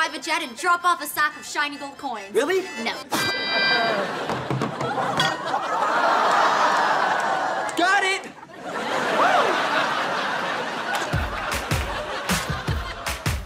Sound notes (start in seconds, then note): 3.4 woman coughs; 11.1 theme music playing